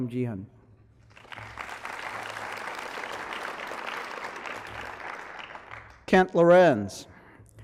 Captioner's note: applause